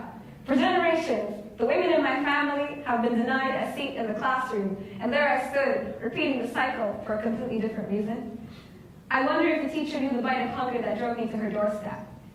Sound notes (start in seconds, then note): none